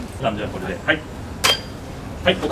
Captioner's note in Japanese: レジの音